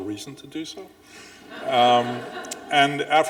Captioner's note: audience laughing